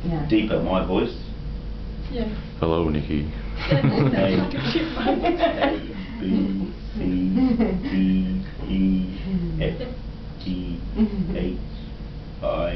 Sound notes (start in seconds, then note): 3.1 deep voice; 3.6 cameraman and Mum laugh; 3.7 laughs